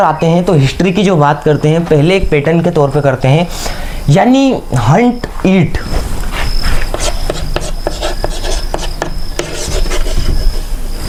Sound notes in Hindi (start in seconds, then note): 5.6 नाक से की जाने वाली आवाज़